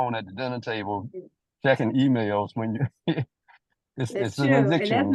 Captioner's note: laughter